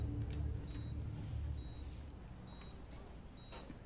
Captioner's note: monitor beeping